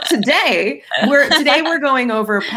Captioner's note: laughs